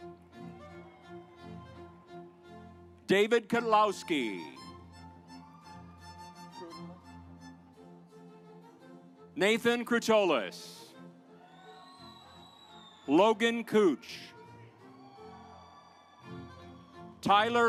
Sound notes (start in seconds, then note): 0.3 stately music; 4.7 stately music; 11.3 audience applauds